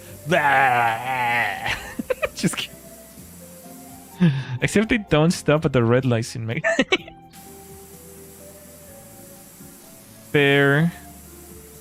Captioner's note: laughter